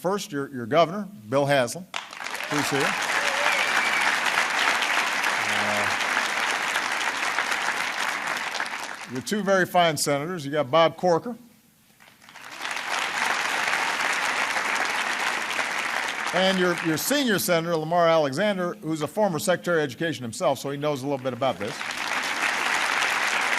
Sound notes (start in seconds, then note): 6.2 applause; 12.0 applause